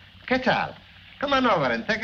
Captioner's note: Tomaso speaking in foreign language